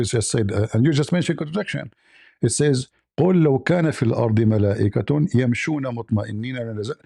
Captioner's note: reads in Arabic